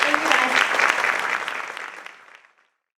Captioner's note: applause